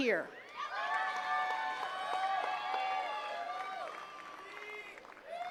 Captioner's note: attendees cheering and clapping